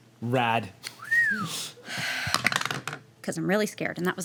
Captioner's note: whistles